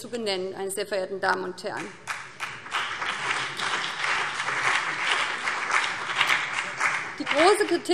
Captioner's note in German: Beifall BÜNDNIS 90/DIE GRÜNEN und vereinzelt CDU